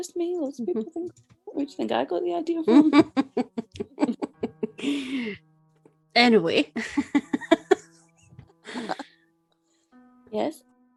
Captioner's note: laughs